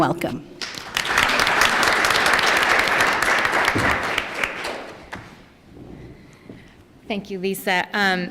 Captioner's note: applause